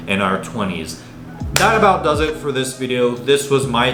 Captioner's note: hand slapping